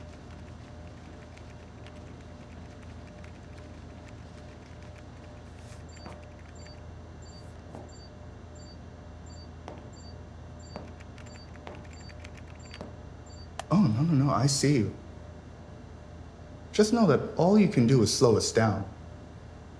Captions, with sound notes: [Typing noises] [Beeping] Oh no, no, no, I see you. Just know that all you can do is slow us down.